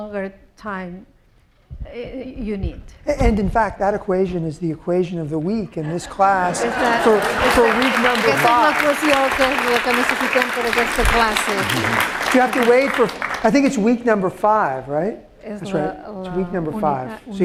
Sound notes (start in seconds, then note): 8.7 applause; 10.4 speaking spanish